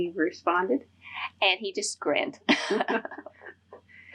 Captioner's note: laughter